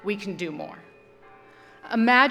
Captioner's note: bell tolling